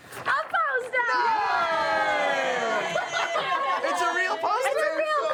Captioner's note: cheering